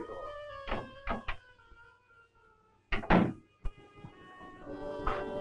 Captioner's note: chattering in Russian; door clicks and thuds